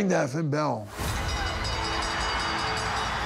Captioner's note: bell rings